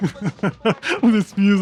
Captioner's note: laughter due to music